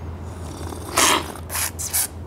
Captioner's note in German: Synchrones Schlürfen